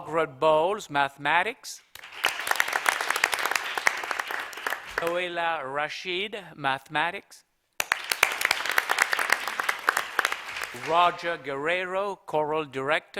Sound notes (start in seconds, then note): 7.8 applause